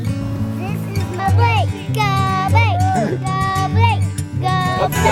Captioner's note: child chanting "Go Blake"